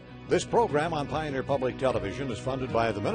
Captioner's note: voiceover